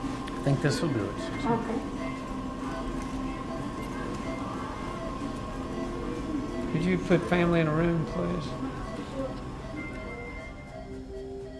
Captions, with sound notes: >> I think this will do it, Susan. >> OK. [beeping] >> Could you put family in a room, please? [beeping]